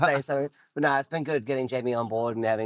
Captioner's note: laughing